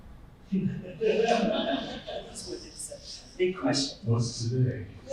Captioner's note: group laughing